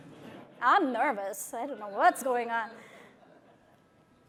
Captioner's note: laughter